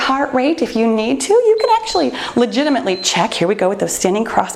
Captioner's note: timer beeps